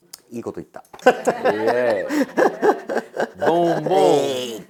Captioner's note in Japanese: 笑い